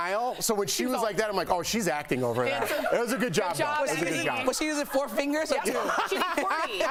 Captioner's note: laughter